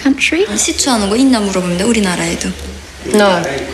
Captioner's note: foreign Language